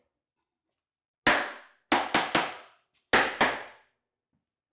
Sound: hammer taps

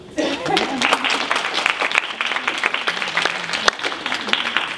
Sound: audience applauding

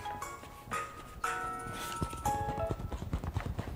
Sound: ringtone

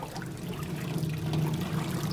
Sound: water pattering

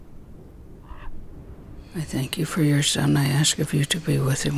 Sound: whispering prayers

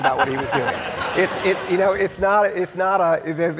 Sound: audience laughing

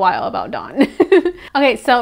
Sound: awkward giggle

